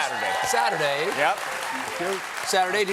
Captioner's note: applause